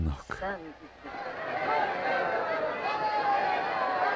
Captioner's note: crowd shouting